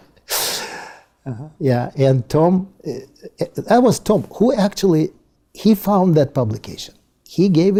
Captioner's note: laugh